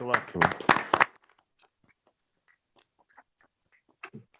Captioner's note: members applaud